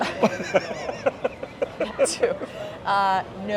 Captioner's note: laughs